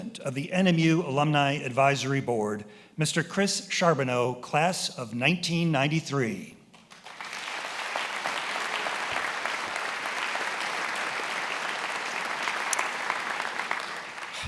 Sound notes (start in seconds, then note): 6.8 attendees applauding